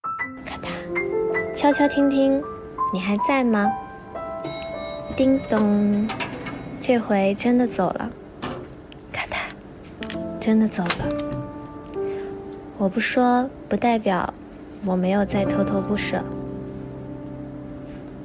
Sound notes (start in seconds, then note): 4.4 sample 3: The sound of the elevator; 8.4 Sample 4: The sound of the door closing